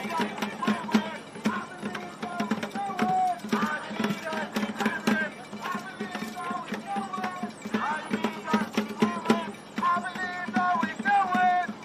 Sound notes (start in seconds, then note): 2.7 cheering